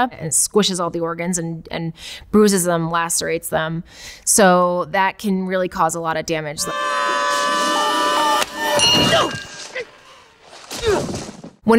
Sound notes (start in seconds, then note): 6.6 both scream; 8.7 bell dings